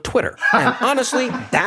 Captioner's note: laugh